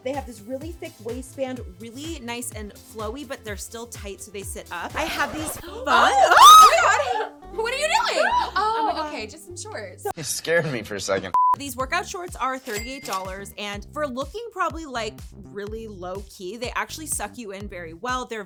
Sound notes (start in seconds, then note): 5.0 record scratching; 5.0 screaming; 11.4 electronic beeping; 12.6 cash register chiming